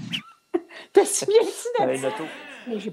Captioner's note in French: rires